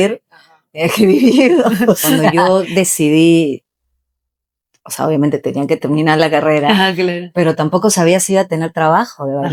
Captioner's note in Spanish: risas